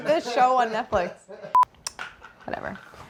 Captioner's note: camera beeps